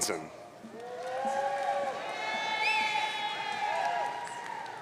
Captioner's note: audience cheering